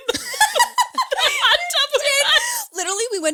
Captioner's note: all laughing